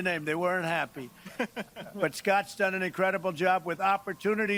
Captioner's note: laughter